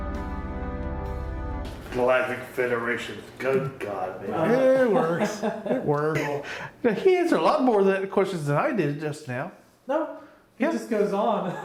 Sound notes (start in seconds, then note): 4.4 laughs